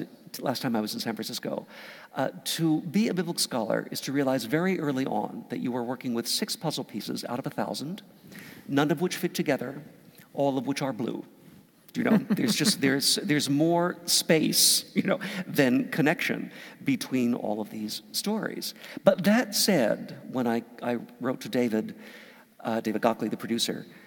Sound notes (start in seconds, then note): 12.0 laugh